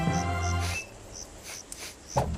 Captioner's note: sniffs